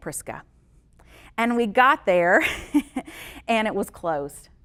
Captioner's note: chuckles